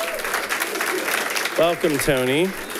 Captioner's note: audience applauding